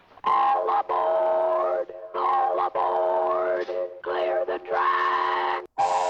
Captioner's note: distorting electronically